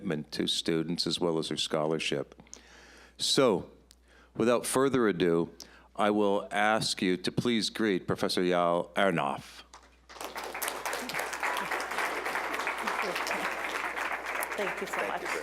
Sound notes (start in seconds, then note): 9.7 applause